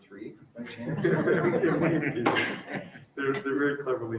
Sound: everyone laughs

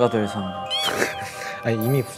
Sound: haha

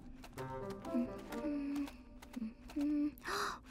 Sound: Hogi humming; both gasp

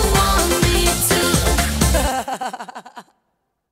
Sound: laughter

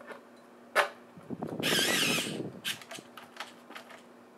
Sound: drill whirring

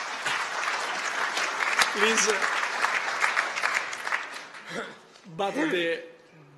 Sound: applause

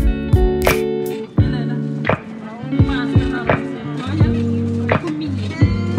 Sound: people speaking in Cape Verdean Creole

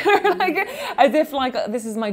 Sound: laughing

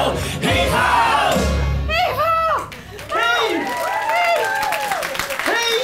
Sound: applause

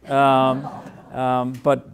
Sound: laughing

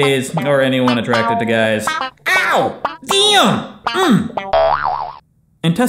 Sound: boing sound effect

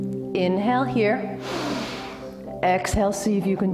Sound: breathes

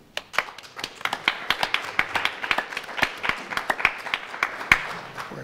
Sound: audience applauds

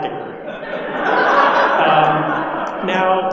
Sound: audience laughing

